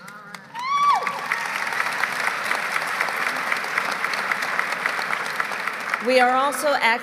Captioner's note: applause